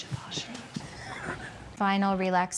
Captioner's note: laughing